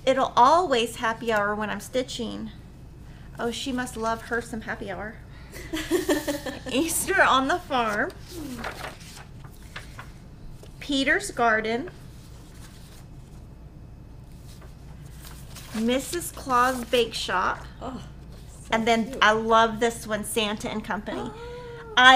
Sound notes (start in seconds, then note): 5.6 laughing; 12.0 papers shuffling